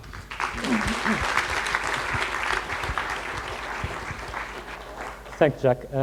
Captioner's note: applause